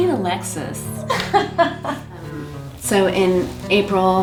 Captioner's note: laughing